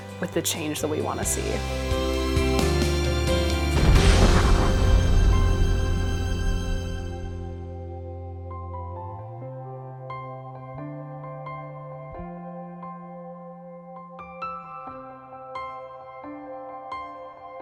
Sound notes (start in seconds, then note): 1.9 inspiring music; 3.7 explosion rumbles; 8.0 gentle piano music